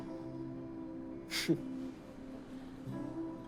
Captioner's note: chuckles